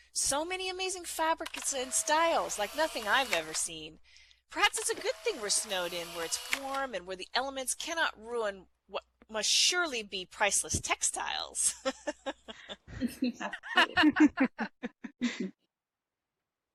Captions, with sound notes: So many amazing fabrics and styles, like nothing I've ever seen. Perhaps it s a good think we're snowed in where it's warm and where the elements cannot ruin what must surely be priceless textiles. [ Laughing ]